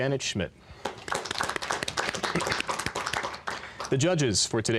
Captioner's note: applause